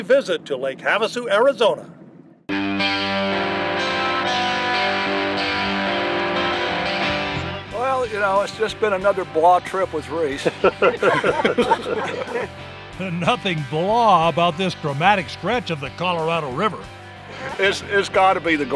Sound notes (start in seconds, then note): 10.4 laughing